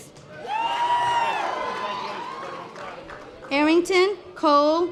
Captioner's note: audience applause